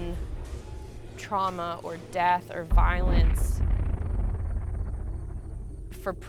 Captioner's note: explosion rumbles